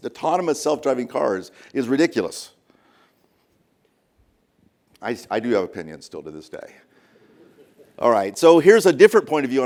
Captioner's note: laughter